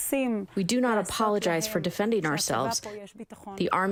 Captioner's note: through translator